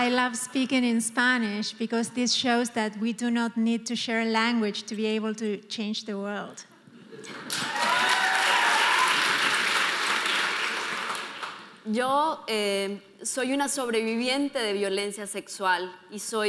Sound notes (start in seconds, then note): 7.2 audience applauding; 12.0 speaking in foreign language